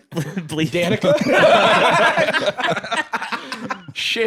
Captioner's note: all laughing